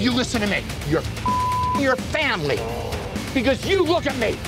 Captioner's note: beep